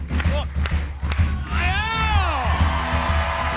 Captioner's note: clapping; cheering